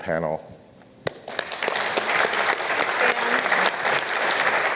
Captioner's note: applause